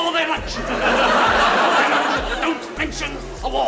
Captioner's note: audience laughs